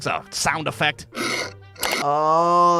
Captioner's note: button clicking